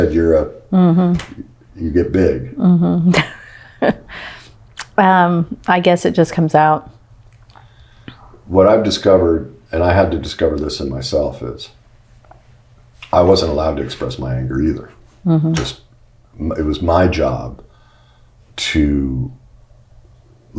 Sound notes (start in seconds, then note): 2.6 laughs